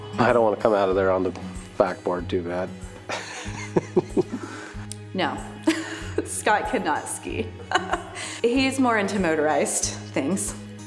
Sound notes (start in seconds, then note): 3.0 laughs